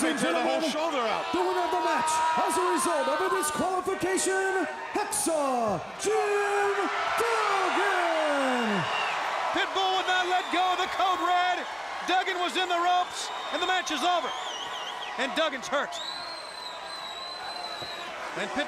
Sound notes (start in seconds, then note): 8.4 crowd cheering